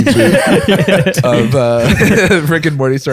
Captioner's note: laughter